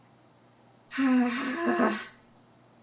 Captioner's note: sighs